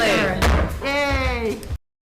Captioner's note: gavel bangs loudly